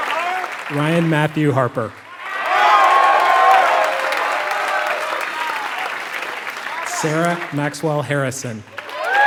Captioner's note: applause